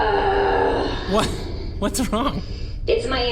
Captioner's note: perplexed, with laughing